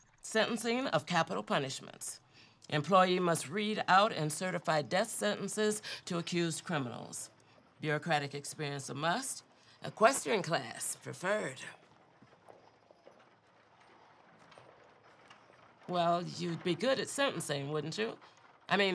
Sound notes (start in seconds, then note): none